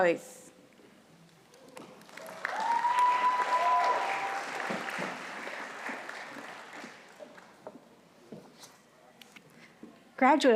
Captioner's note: audience applauding